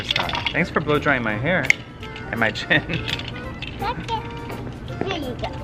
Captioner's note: laughs